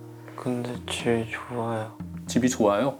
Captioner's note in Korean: 옹알